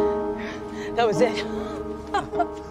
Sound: laughs

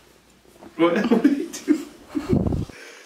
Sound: laughing

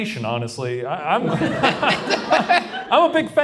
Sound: Shane, Ryan and audience laugh

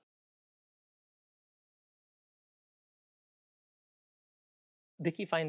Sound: silence

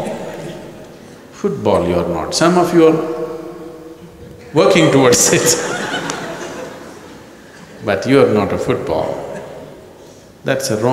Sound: laughter; laughter

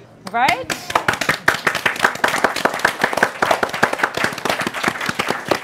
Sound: applause

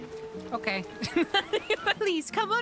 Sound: laughter

